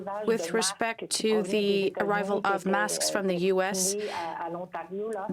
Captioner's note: speaking french